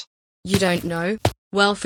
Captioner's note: footsteps